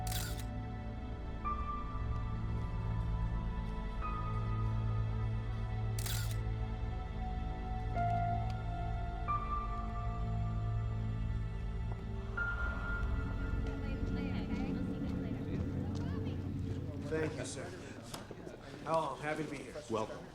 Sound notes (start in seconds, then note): 0.0 camera shutter clicks; 2.2 suspenseful music; 6.0 camera shutter clicks; 8.3 suspenseful music; 14.8 students chattering